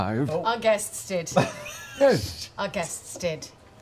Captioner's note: laughing